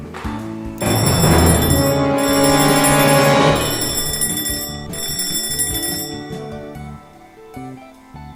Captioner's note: loud bell